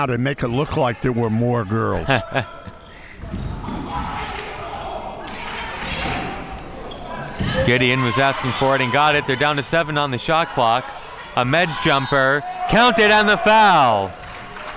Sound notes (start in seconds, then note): 1.9 laughs; 4.3 team chanting; 11.8 referee blows whistle; 13.1 crowd clapping